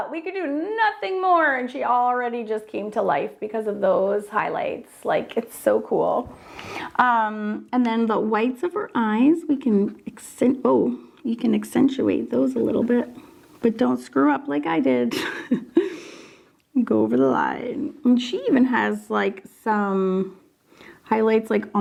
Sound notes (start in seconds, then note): 15.1 laughs